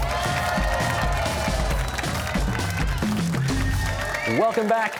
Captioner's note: cheers and applause